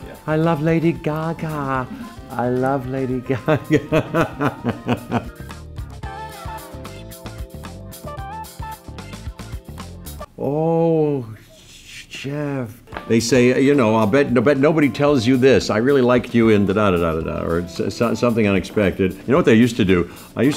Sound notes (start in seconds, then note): 3.2 laughs; 5.2 lively jazz music